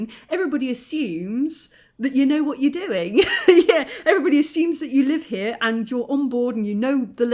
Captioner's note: laughing